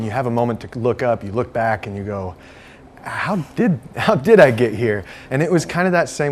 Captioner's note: laughs